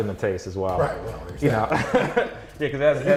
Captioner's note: laughs